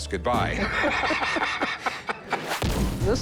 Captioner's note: laughter